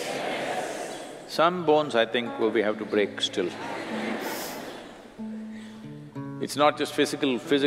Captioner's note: laughter